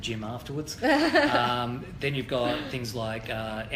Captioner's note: laughs